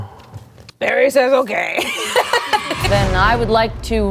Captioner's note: laughing